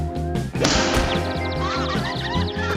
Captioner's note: birds chirping